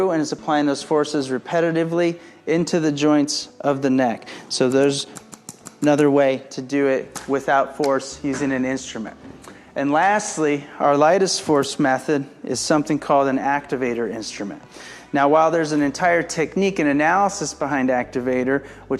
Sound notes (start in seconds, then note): 5.1 device clicking